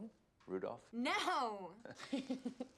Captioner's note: chuckles